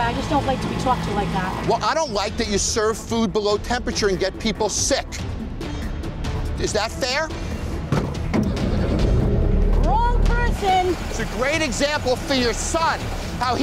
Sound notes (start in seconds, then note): 8.5 car engine